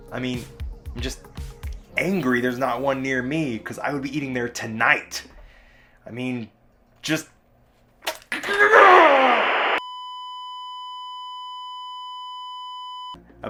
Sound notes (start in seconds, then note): 8.3 angry Scream; 9.8 sustained Beep